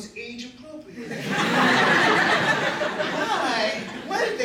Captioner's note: laughter